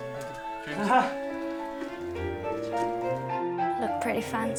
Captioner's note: woman chuckling